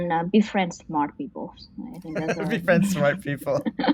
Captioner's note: laughs